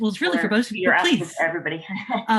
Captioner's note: laughs